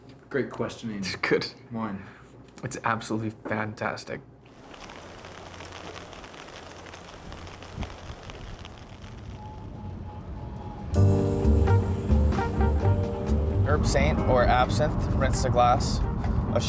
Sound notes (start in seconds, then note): 4.5 rain patters; 10.8 relaxed music